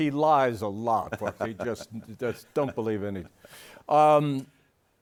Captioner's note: laughing